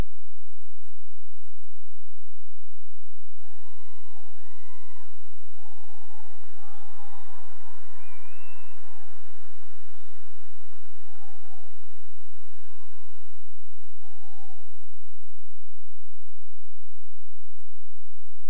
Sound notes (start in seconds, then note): 3.5 cheering and applause